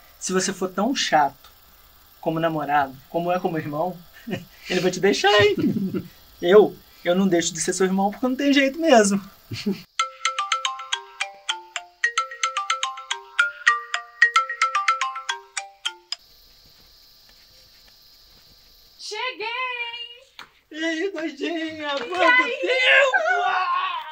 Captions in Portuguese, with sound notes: Se você for tão chato como namorado como é como irmão, ele vai te deixar, hein... Eu não deixo de ser seu irmão porque não tem jeito mesmo. [Celular tocando] Cheguei hein!!!! E aí doidinha?! Quanto tempo!